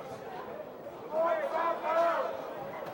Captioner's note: crowd chatter